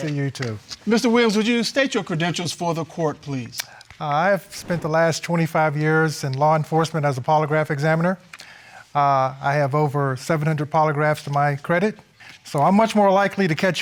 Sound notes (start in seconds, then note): none